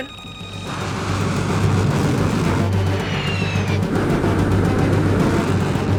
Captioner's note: intense, dramatic music; missile whooshing